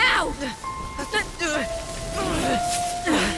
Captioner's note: both strain and groan